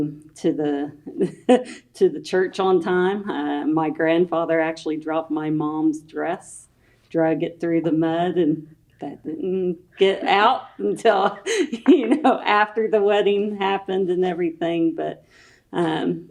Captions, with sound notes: to get him to the church on time. My grandfather actually dropped my mom’s dress, drug it through the mud, and that didn’t get out until after the wedding happened and everything. (Laughs)